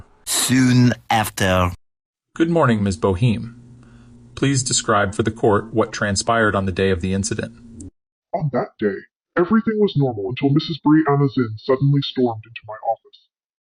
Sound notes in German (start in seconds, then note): 8.7 verzerrt